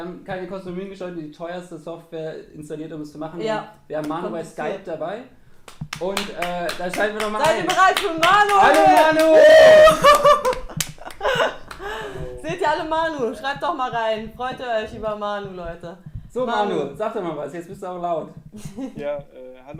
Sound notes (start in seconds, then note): 11.4 woooh